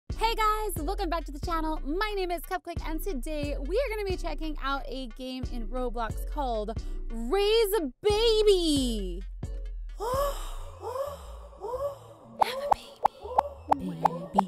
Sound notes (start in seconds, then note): 10.0 gasp